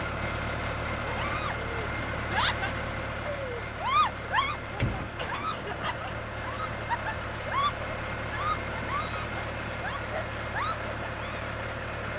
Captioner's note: screams and laughs while tractor stalls